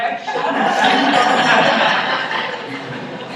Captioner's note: laughter